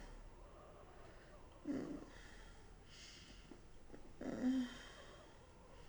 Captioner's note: Jane moaning